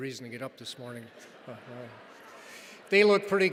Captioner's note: audience laughs